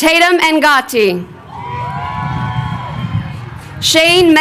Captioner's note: crowd cheering